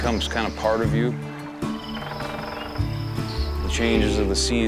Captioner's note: woodpecker